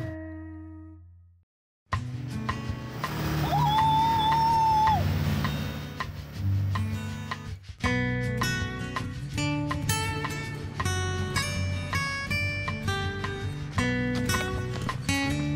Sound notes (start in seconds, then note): 3.5 squeals; 9.5 gentle music